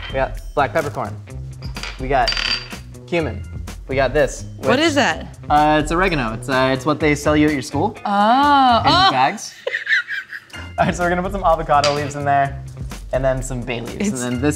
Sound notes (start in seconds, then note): 8.5 laughing